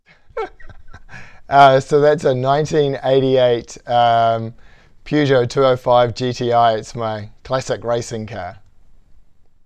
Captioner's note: laugh